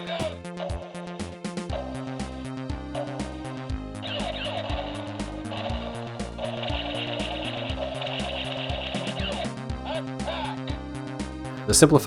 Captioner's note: toy makes sounds